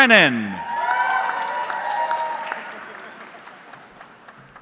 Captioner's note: audience cheering